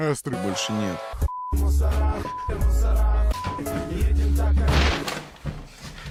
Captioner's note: telephone rings